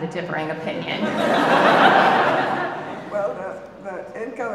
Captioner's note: audience laughing